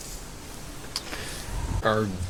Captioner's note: contemplative inhale